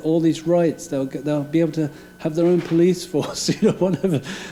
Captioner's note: laughing